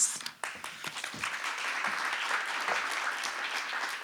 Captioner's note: applause